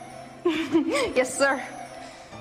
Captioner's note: Carrie giggles